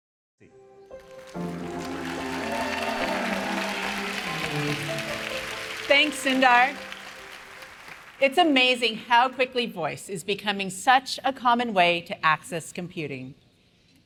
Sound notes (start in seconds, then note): 0.1 light music; 1.0 cheers and applause